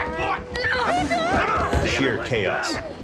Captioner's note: fighting Noise